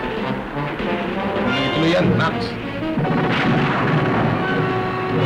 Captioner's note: speaking filipino